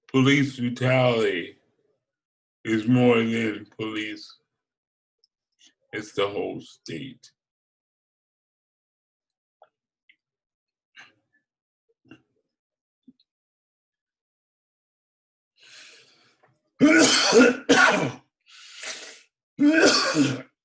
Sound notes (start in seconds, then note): 16.9 coughs